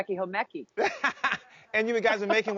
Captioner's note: laughing